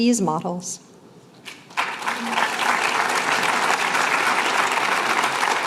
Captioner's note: applause